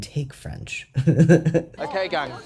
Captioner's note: laugh